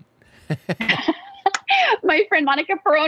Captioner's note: laughs